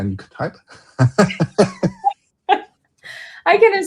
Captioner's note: laughter